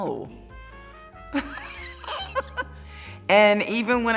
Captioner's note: laughing